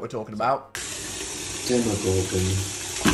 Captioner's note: water running